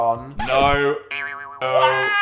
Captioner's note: spring boings